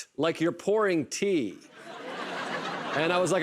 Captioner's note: laughter